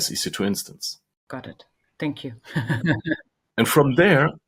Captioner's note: chuckles